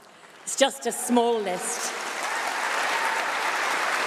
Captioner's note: applause